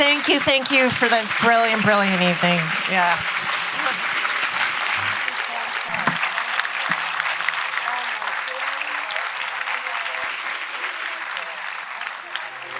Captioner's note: applause